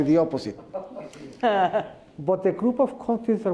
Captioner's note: laughter